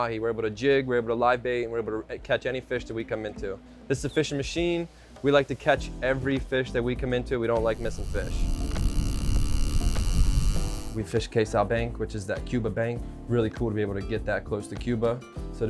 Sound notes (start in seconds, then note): 9.2 reel whirring